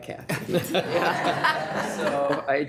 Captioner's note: people laughing